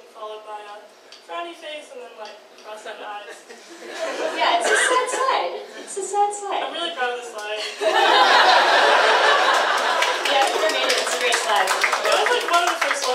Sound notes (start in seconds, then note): 4.6 audience laughs; 7.8 audience laughs and applauds